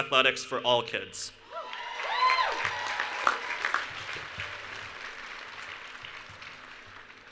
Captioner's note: cheering and Applause